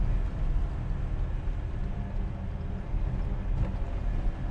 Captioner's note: engine running, wind rustling